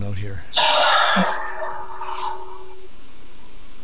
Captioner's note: sighs